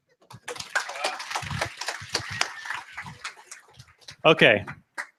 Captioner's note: applause